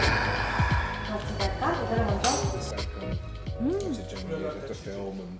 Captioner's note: speaking Korean